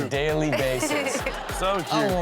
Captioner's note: audience laughs